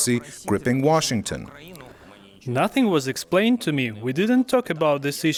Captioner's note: through translator